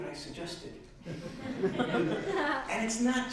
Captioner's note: laughs